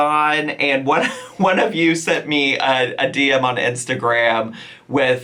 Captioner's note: chuckling